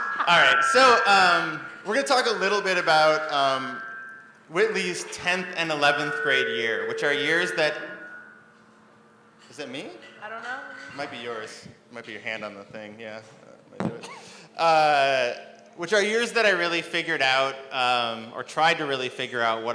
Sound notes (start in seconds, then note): 0.0 both laugh; 5.8 microphone feedback